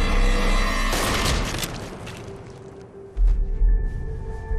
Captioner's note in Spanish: Detonación de disparo